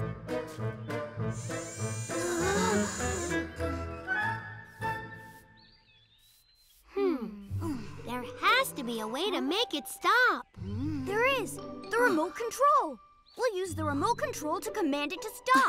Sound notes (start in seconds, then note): 2.2 all exclaiming softly